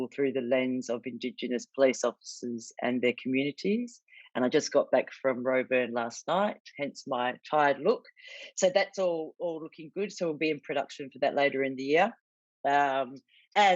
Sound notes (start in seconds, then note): none